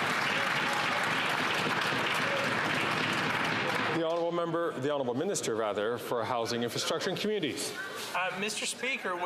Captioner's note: some Applause